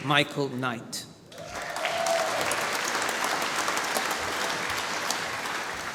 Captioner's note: applause